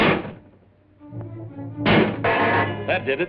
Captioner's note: clanging